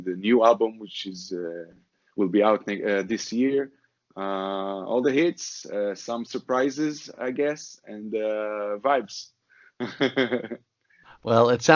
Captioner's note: laughs